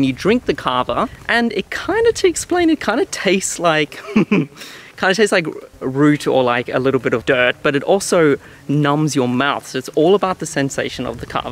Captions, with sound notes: and you drink the kava and it kinda, to explain, it kinda tastes like, (laughs), kinda tastes like a root or a little bit of dirt but it also numbs your mouth so it's all about the sensation of the kava.